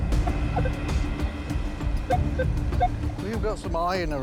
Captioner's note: beeping